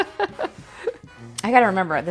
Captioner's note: laughter